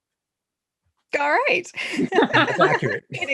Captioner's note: laughter